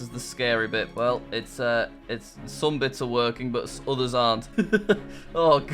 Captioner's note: laughs